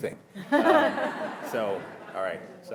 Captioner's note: audience laughing